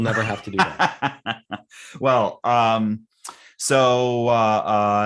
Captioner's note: laughing